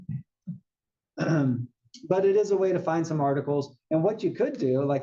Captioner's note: cough